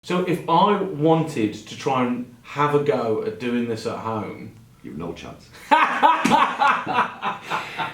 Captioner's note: laughs